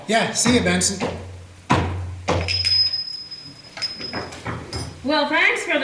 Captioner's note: footsteps and bells tinkling